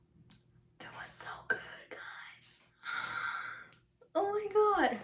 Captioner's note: whispers